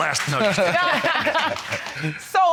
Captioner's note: Judge Lake laughs